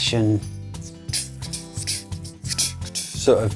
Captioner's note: imitates swing drums